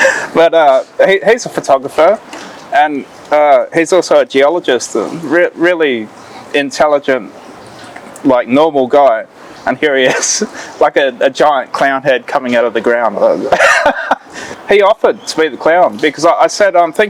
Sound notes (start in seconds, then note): 13.4 laughing